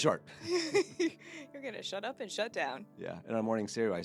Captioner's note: laughing